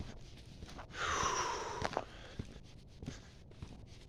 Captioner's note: exhale